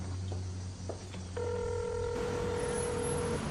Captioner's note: phone ringing